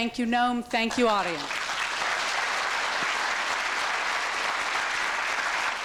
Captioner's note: applause